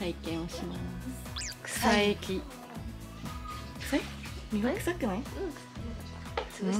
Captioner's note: laughs